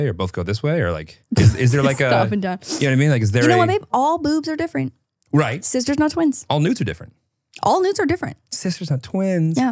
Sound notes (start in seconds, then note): 1.4 laughs